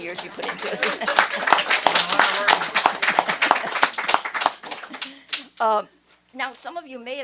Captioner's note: applause